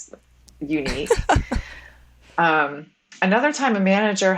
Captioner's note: woman laughs